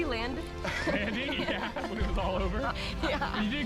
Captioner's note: laughing